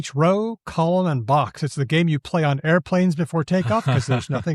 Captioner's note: chuckles